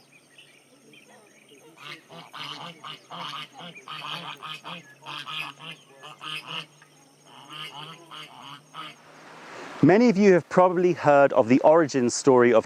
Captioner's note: ducks quacking